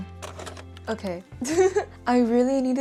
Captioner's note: tired laugh